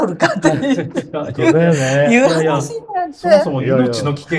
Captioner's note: laughter